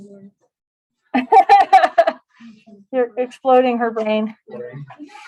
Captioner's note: laughter